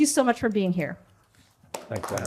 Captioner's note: applause